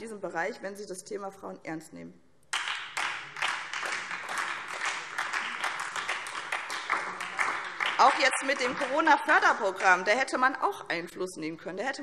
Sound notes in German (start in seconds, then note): 2.5 Beifall SPD und DIE LINKE